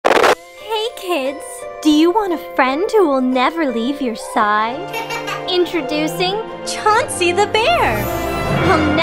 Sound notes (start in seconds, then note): 0.0 static crackles; 4.8 child chuckles